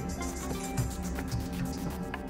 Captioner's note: none